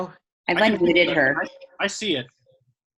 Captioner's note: audio disorting